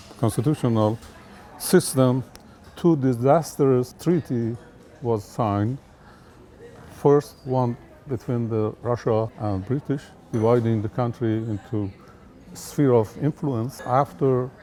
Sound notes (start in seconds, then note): none